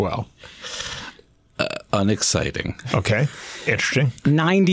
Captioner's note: laughs